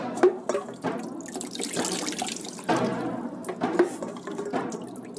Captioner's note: water splashing